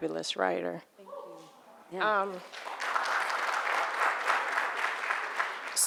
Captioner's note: audience applauding